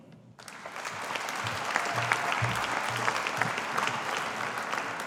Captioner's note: audience applauding